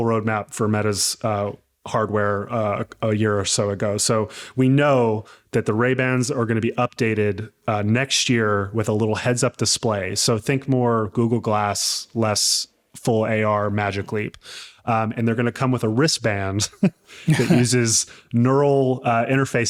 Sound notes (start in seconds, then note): 17.1 laughing